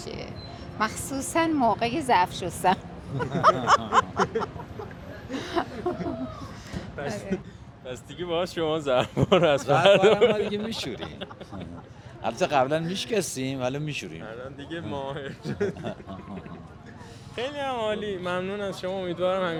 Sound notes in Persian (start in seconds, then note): 3.0 خنده